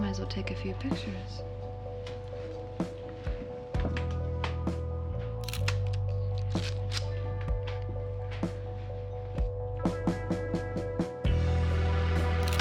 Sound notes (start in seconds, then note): 2.8 gentle upbeat music; 5.4 camera shutter clicking; 7.8 gentle upbeat music